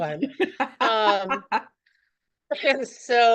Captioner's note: laughs